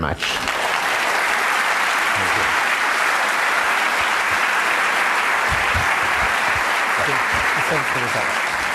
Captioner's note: applause